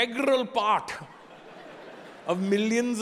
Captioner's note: audience laughing